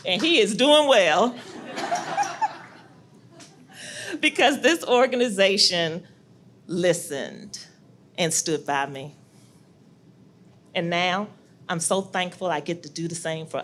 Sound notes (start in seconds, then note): 1.4 audience laughs